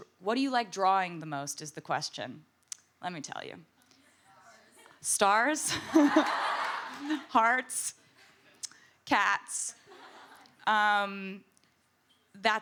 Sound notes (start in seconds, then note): 5.8 audience laughs; 5.8 laughs